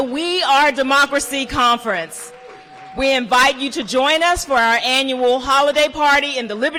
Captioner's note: applause